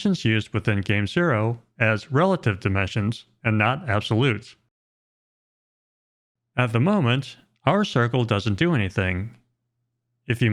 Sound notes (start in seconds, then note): none